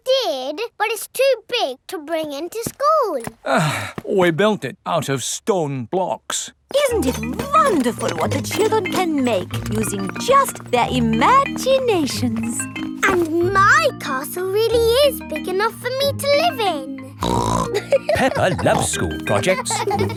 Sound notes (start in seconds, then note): 3.4 sighs; 17.2 snorts and laughs